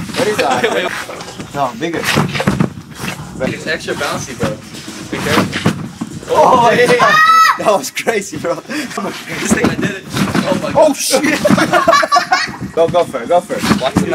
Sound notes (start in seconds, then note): 7.0 cheering; 11.1 laughing